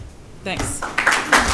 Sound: applause

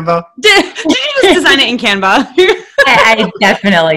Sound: laughing

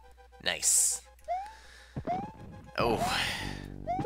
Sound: inhaling

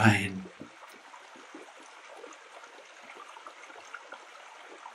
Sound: sounds of a stream

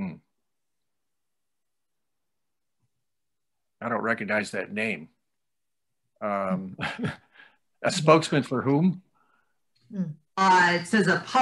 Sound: laughs

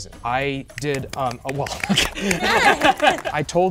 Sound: participants applauding

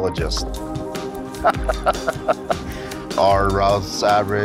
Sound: laughs

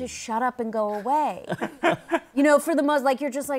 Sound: laughter

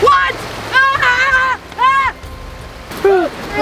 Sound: screaming

